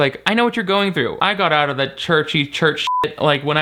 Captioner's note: beep